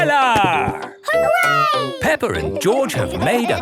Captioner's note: laughing